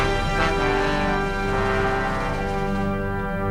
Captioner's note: Aplausos